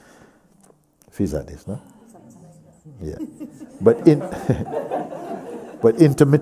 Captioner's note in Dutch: gelach